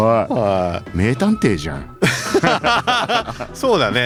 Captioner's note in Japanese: 笑い